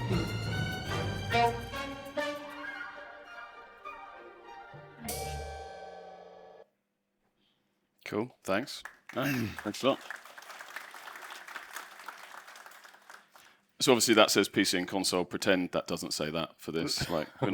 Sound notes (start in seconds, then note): 8.6 applause